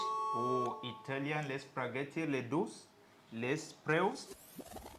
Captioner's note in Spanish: hablando Itali....algo